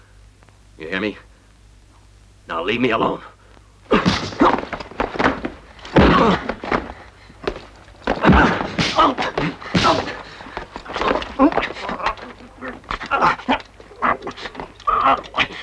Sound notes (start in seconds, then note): 3.3 crying out; 3.3 whacking